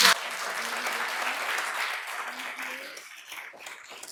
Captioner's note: applause